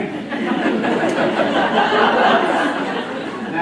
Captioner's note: laughter